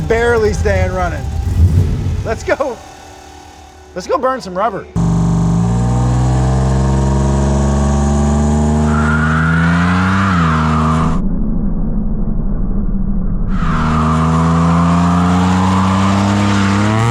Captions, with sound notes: Barely staying running. Let's go-- (engine revving then stopping) Let's go burn some rubber. (engine revving) (tires squealing)